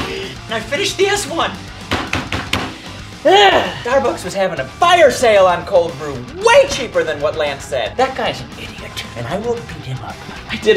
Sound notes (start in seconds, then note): 1.9 fist thuds; 3.1 grunts loudly